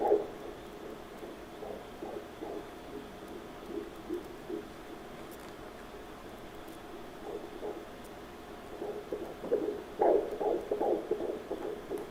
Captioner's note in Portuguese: batimentos cardíacos